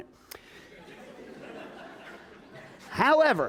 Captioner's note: laughter